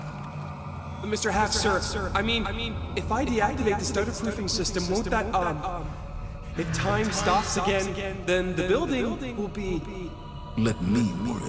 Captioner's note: as an echo from the past